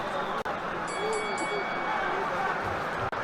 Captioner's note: bell tolls